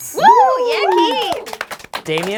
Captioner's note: cheering